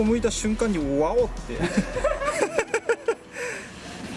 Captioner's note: laughs